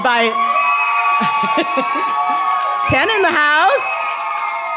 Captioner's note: cheering and laughing